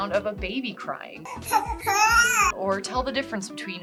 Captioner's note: baby crying